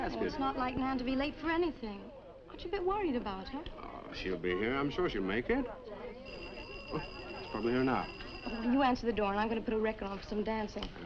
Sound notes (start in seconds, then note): 6.2 doorbell ringing